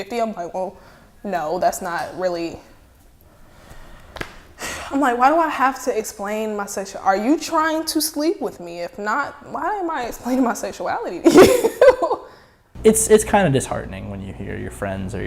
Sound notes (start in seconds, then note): 4.1 sighs; 11.2 laughing